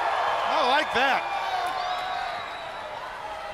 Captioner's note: crowd cheering